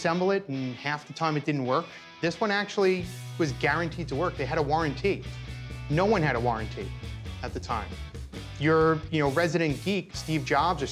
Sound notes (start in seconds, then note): none